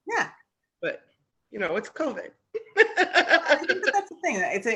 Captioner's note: laughs